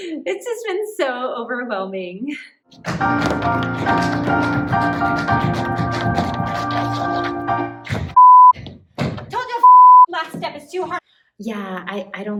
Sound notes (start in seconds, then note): 0.0 Jan laughs; 8.1 beep